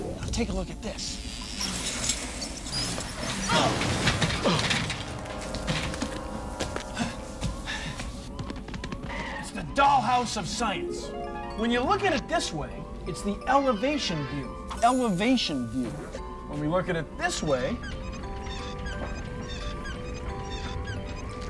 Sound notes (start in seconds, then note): 1.7 chair wheels squeak; 4.3 grunts; 17.2 wheels squeak